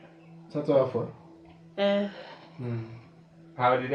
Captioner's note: speaking in foreign language